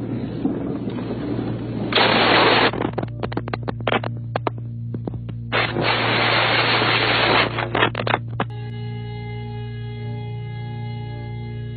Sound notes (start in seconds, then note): 1.9 more gunshots